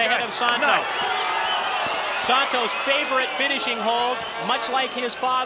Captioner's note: applause